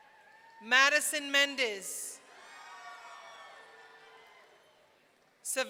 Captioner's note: audience cheering